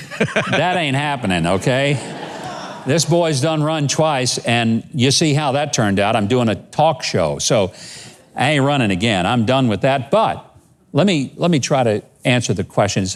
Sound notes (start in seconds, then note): 0.0 laughs; 2.5 audience laughs